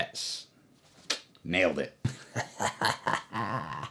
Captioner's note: laughing